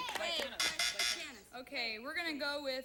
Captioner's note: buzzer sounds